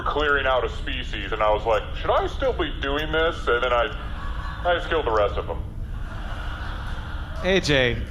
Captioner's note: thoughtful